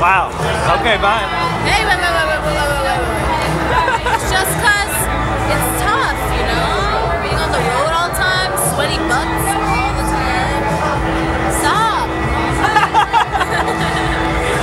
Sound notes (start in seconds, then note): 12.6 both laugh